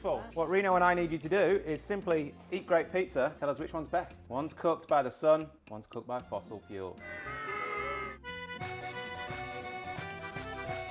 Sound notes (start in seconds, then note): 7.0 audience booing; 8.1 upbeat music